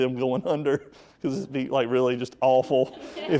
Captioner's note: speaker laughing